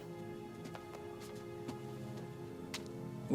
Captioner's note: footstep